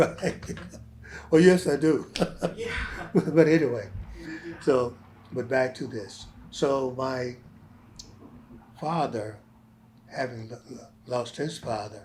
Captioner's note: laughs